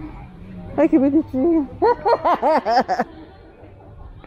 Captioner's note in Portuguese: risos